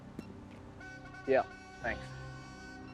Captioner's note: horn blowing